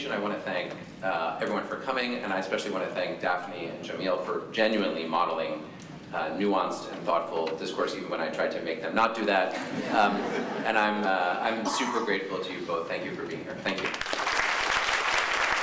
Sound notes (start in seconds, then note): 9.5 laughter; 13.7 applause